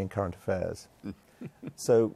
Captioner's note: laughs